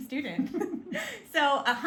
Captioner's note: both laugh